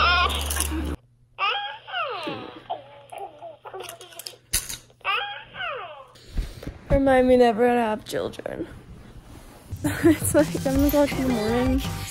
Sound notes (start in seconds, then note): 2.1 baby cooing